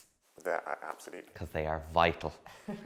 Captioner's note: laughing